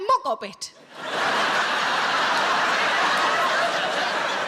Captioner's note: audience laughs